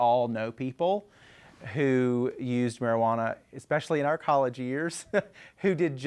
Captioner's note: laughs